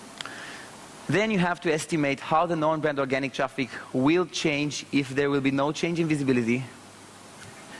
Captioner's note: vent